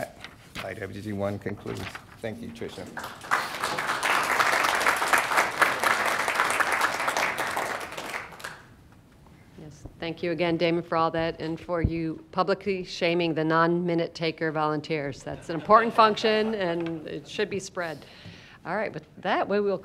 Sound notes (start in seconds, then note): 5.5 applause; 15.2 laughter